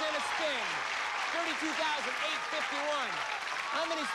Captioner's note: cheers and applause